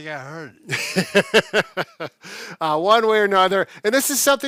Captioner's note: laughs